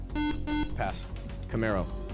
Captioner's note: beep